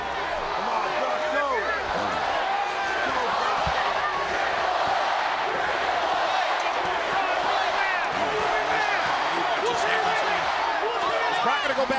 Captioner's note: applause